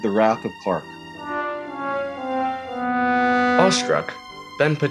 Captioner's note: womp womp womp wooooooomp